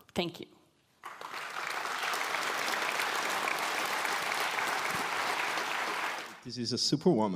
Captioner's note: applause